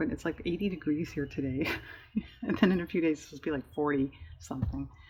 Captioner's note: laughs